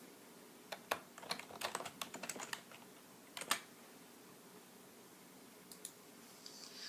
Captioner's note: typing